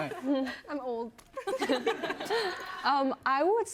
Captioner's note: laughter